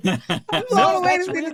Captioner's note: laughing